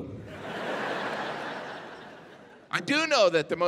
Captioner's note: audience laughing